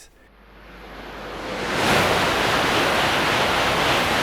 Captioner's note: plane engine roaring